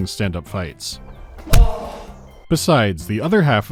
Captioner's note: dunk